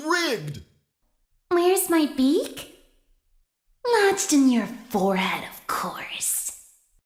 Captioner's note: sinisterly